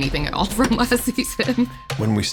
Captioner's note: laughs